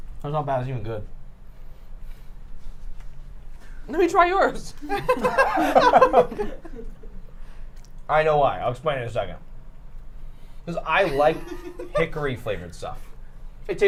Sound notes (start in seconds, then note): 4.8 all laughing